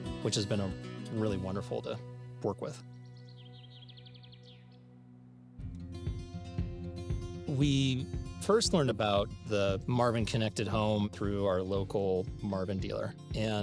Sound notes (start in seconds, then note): 3.6 birds chirping; 6.1 lively music starts